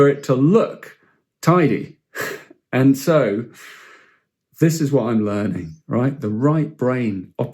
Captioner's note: chuckles